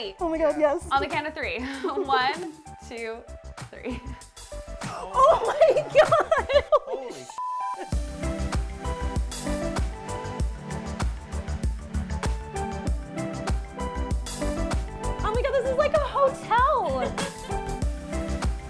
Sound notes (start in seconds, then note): 7.4 beep; 8.2 upbeat music